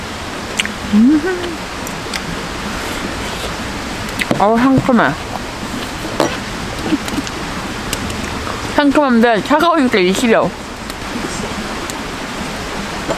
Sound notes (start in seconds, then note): 9.2 laughs